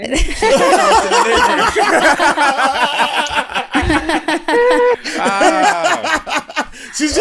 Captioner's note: laughter